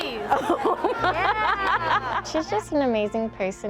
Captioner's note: laughter